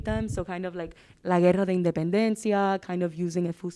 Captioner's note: speaking Spanish